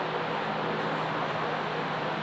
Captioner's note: none